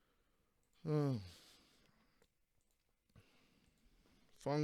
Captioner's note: sighs